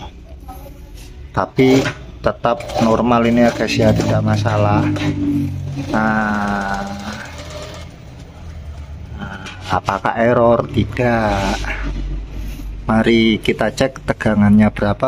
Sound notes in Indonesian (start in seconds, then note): 5.5 suara mesin jahit